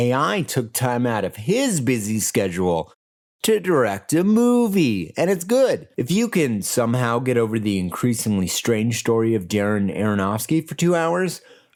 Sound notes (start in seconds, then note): none